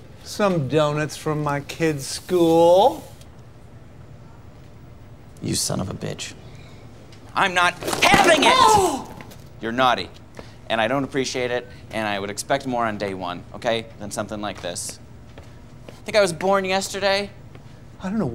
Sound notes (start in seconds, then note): none